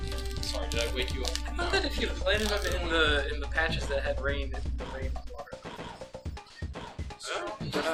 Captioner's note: trails off